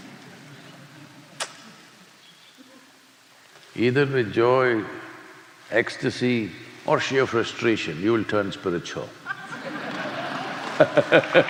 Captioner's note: laughter/ Applause